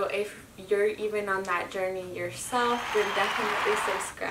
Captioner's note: people applauding